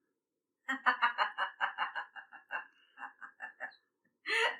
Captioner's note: silence; chuckles